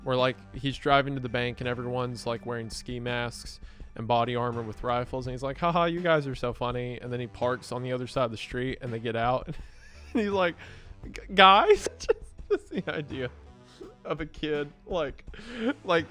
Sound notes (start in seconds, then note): 11.0 laughing